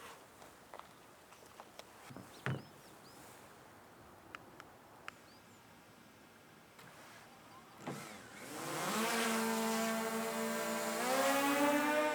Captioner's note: birds chirping